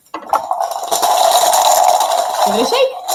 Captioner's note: counters rattling